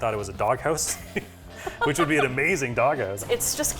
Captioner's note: laughs